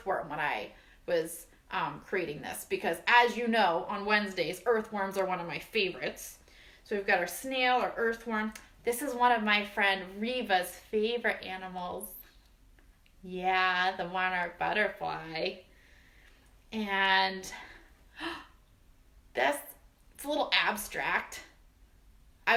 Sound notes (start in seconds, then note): 15.7 gasp